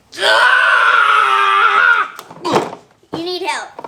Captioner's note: screaming